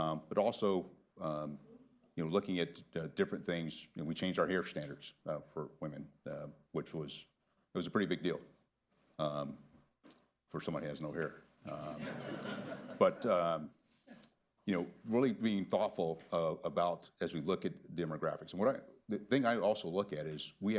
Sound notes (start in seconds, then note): 11.7 laughter